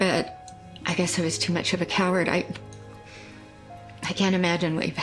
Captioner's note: stutters